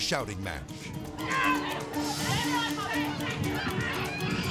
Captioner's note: people shouting